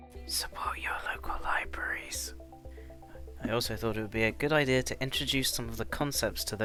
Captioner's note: whispers